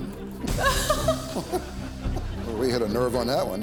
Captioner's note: laughs